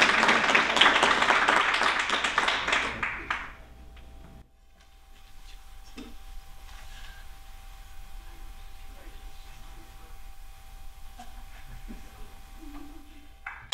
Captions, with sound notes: Congratulations. Thank you. (Applause)